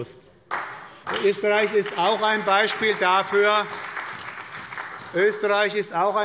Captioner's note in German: Beifall bei der SPD